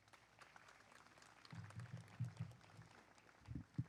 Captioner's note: applause